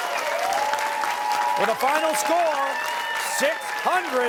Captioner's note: cheers and applause